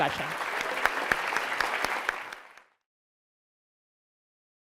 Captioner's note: audience applause